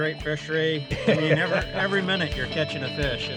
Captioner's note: laughing